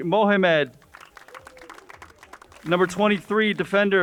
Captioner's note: crowd applauds